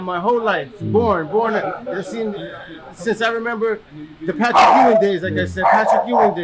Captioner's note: dog barks in background